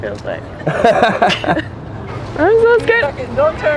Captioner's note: both laughing